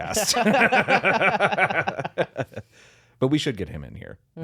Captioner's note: laughing